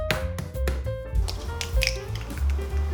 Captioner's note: eggshell washing